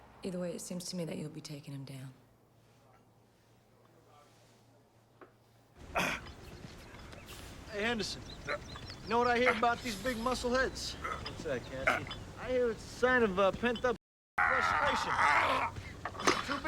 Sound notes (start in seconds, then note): 5.9 Knox grunts; 14.4 Knox grunting